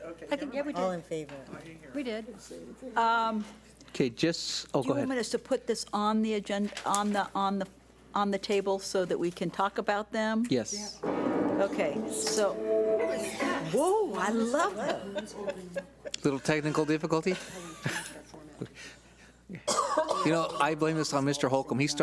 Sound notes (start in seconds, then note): 11.0 booming; 15.5 laughing